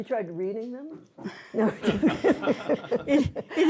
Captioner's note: laughter